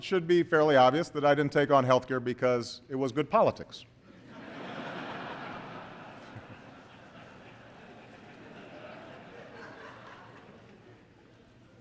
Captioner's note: laughter